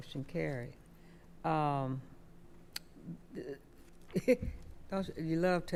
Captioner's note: chuckles